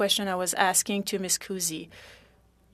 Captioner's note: speaking French